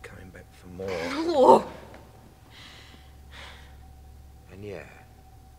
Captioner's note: sighing heavily